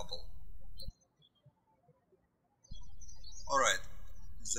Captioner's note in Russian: птички щебечут